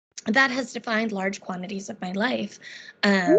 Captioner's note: beeping